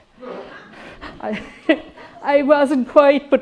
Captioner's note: audience laughing